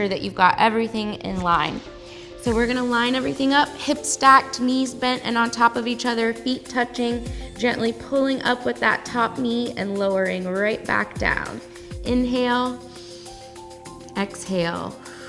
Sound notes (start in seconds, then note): 12.8 inhales; 14.9 exhales